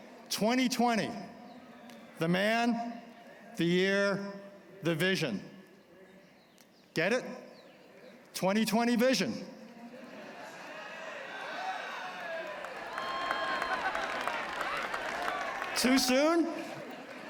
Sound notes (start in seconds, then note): 9.8 laughter; 12.8 applause